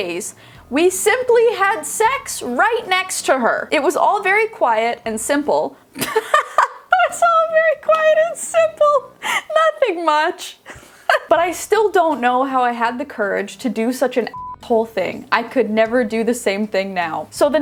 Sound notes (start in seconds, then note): 6.0 laughing; 10.6 laughing; 14.3 beeping